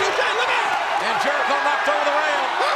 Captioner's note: audience cheers